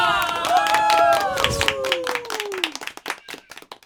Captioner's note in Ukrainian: оплески